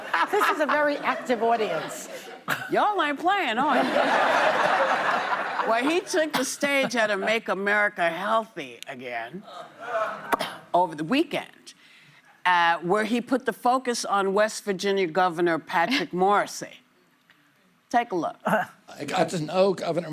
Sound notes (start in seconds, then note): 0.0 audience reacts; 2.1 laughter; 9.8 laughter